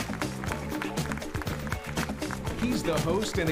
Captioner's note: applauding